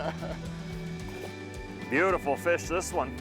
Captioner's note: laughs